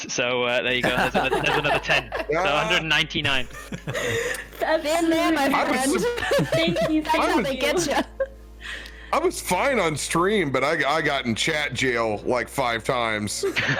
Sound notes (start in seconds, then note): 3.7 all catching breath; 4.6 captioner cries; 13.4 knowing laughter